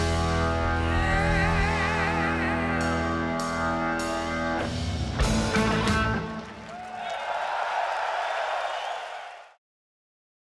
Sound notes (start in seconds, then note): 3.1 rock music; 5.2 audience cheering; 5.5 audience clapping